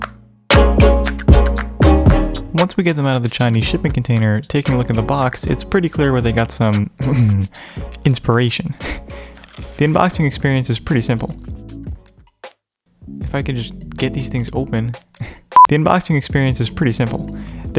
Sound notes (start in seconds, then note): 9.7 ahem